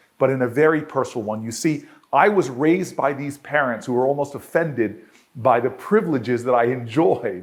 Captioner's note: none